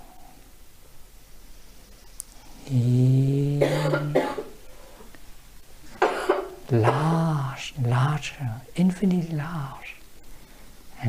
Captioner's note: breathe